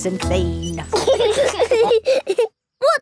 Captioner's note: laughing